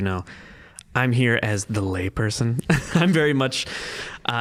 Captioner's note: laughing